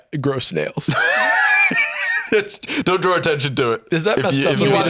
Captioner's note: laughs